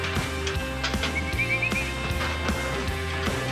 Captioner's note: whistling